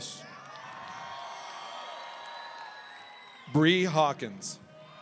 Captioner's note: audience cheering